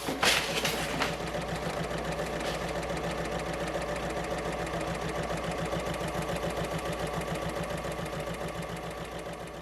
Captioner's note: sewing Machine Sounds